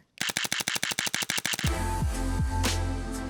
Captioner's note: shutter clicking; mellow music